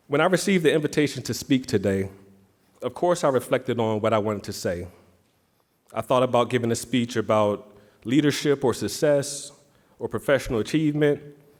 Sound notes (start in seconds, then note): none